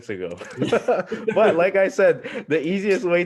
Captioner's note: laughing